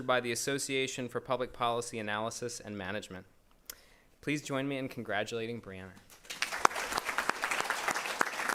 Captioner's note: applause